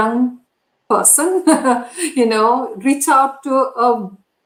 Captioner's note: laughter